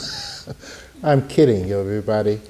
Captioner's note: laughing